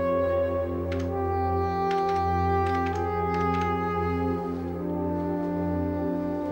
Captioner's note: haunting orchestral music; keyboard tapping